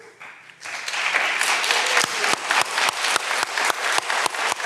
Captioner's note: all applauding